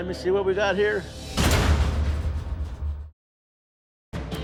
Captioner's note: echoing slam